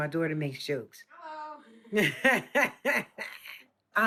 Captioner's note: laughs